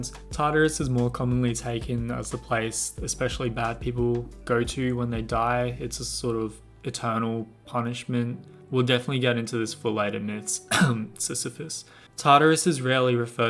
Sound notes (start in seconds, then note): 10.7 cough